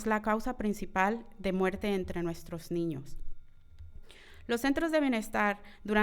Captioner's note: continues speaking in foreign language